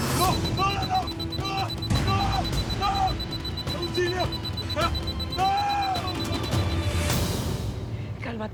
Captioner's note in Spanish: Bip intermitente; Gritos